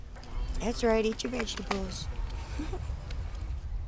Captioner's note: laughs